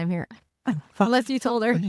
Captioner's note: laughing